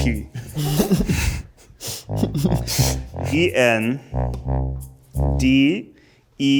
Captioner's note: group laughs